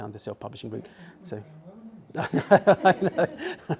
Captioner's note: laughs